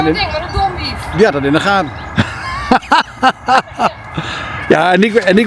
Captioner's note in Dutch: gelach